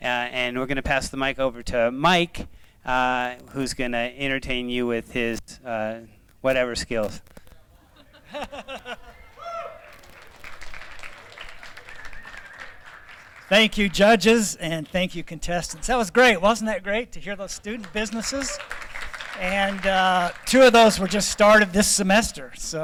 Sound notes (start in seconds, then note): 7.3 applause; 7.7 laughter; 17.5 applause